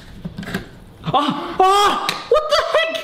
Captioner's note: happily gasps